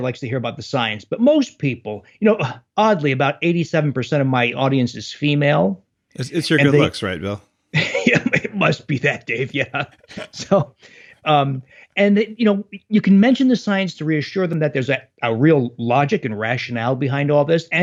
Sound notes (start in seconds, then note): 6.2 laughs